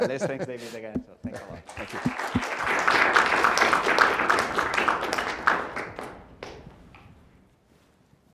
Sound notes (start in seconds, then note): 1.5 applause